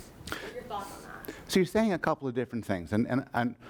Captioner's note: voiceover